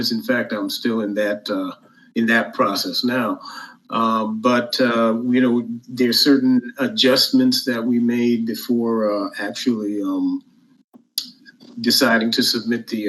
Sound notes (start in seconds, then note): none